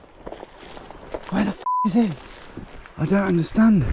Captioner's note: beeps